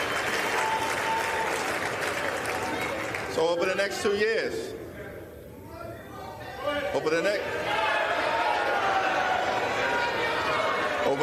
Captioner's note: applause